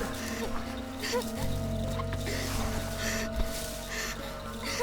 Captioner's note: whimpering